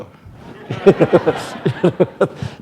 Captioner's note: laughter